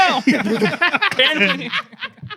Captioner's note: laughing